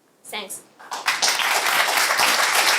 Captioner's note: applause